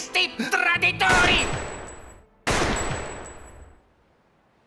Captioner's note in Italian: Colpi di pistola